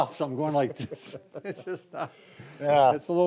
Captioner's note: laugh